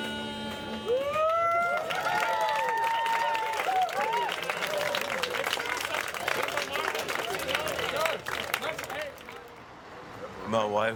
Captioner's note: audience Applause